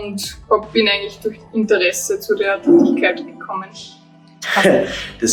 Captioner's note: laughs